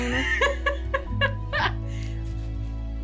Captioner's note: laughs